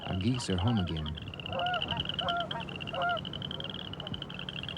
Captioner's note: geese honk heartily, frogs calling